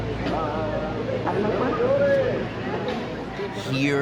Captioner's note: in Spanish